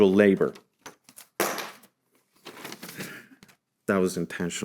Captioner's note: object clattering